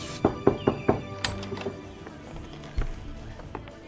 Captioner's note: spray can whooshing; Kent knocking